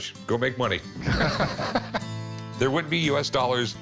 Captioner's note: both laugh